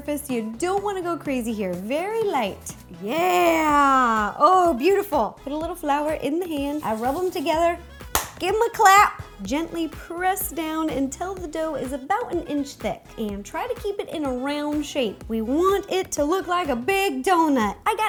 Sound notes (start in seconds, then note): 8.0 clap